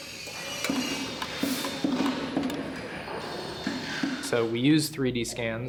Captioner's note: machinery whirring